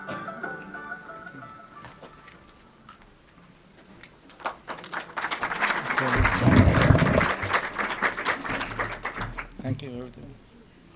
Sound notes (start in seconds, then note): 1.9 silence; 4.2 applause